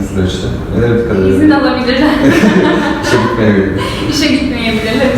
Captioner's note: laughs